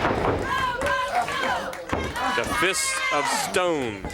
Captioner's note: crowd chatter